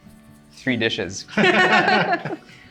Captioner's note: laughs